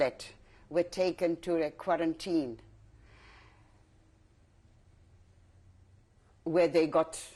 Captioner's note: pauses for 3 seconds